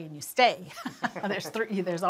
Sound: chuckling

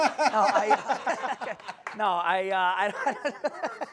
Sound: laughs

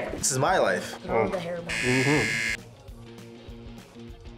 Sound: buzzer rings

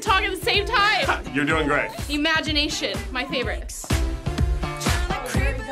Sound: laughs

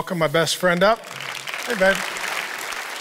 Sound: applause

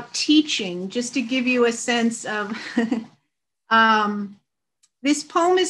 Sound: chuckles

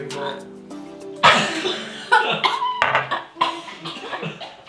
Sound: coughing

